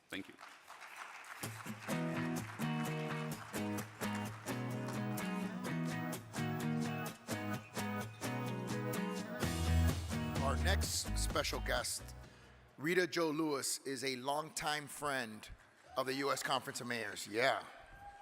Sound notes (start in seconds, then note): 0.0 audience clapping; 3.5 upbeat acoustic guitar music